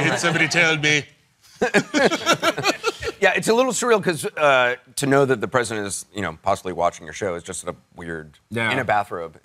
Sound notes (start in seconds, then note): 1.6 chuckles